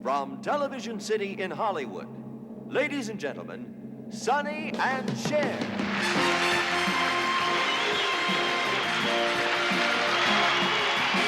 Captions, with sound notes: ladies and gentlemen, Sonny and Cher! [ Upbeat music ] [ Cheering ]